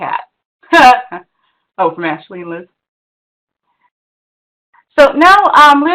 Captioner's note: laughs